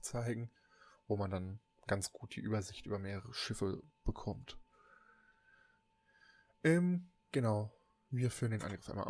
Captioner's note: ehm